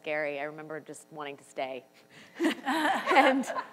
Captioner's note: laughs